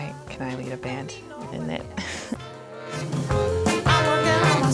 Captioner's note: laughs